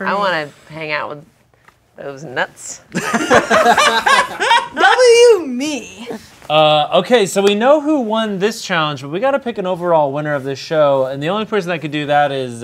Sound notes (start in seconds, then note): 2.9 group laughing